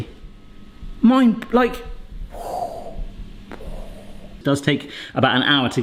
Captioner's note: imitates explosion